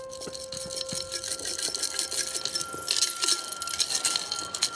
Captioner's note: metal rattles